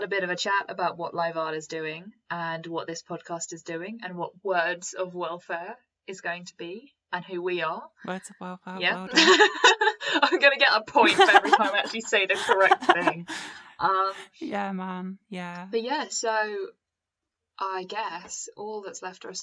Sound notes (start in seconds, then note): 9.0 laughter